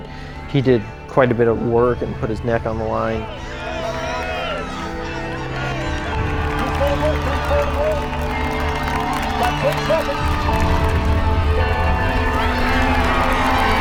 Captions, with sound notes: but he did quite a bit of work and put his neck on the line. (cheers) (suspenseful orchestral music)